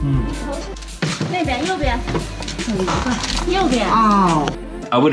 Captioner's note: Chinese speaking